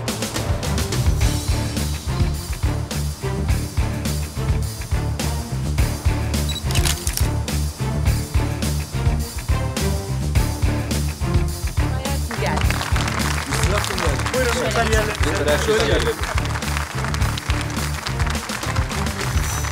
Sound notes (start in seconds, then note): 1.0 tension music rises; 6.4 shutter sound